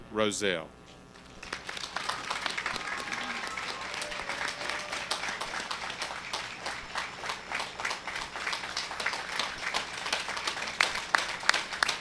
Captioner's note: applause